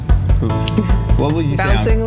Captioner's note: chuckles